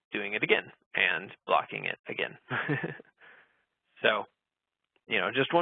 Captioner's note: laughing